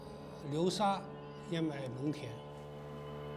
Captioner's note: speaking Chinese